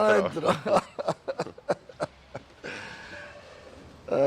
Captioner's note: laughs